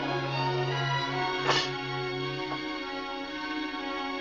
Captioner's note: tray clanks